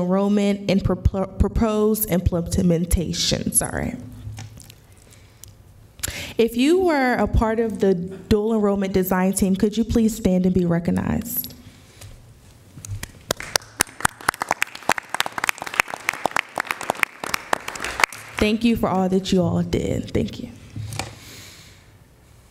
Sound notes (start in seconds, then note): 16.2 applause